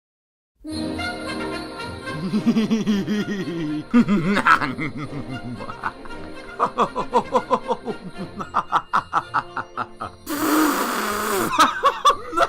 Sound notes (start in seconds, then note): 0.4 christmas music; 5.2 laughing; 9.0 laughing continues